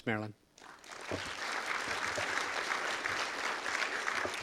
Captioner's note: audience applause